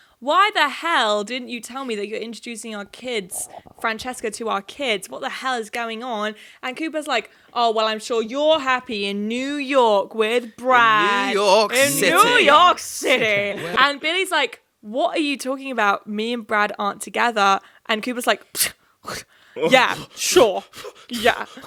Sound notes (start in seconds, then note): 18.8 scoffing